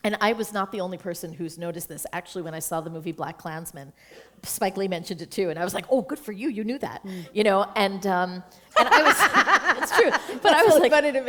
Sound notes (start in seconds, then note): 8.7 laughter